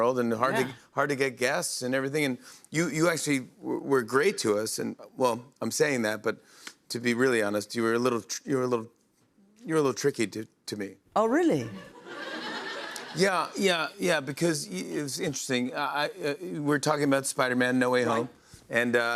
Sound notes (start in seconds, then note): 11.8 laughter